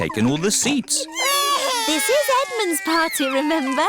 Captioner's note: babies crying